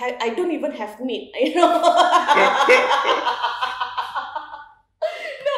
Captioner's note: laughs